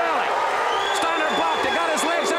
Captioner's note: audience cheers